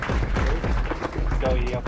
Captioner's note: crowd claps drowns out speaker